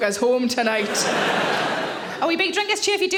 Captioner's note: audience laughing